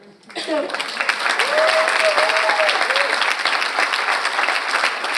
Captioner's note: audience applauds